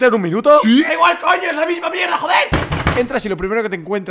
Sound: kicks the table

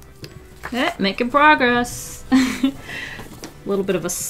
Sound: laughs

